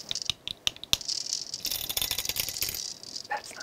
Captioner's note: taps ring